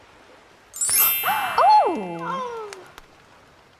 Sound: fire crackles; magic sound

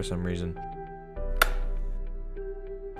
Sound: light switch flips

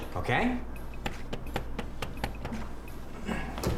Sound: knocking

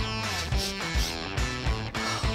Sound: sniffing

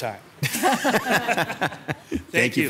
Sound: all laughing

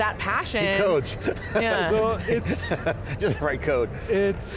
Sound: laughs

